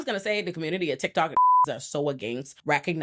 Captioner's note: beep